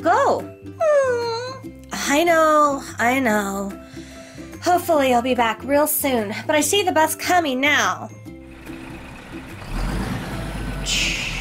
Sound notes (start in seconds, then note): 0.9 dog whining; 8.2 sound of bus arriving and stopping